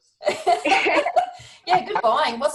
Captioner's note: the group laughs